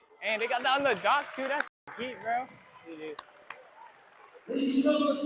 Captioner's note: applause